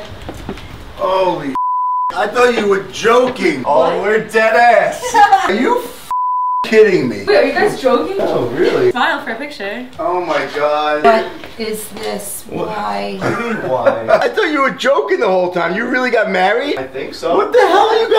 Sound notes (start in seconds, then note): 5.0 laughs; 6.1 beep; 13.2 laughs